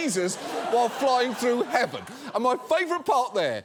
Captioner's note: audience laughing